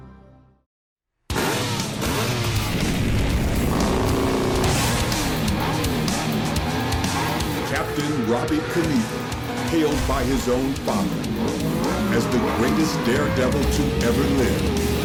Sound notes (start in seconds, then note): 0.6 upbeat music; 3.0 bike engine roaring; 14.8 upbeat music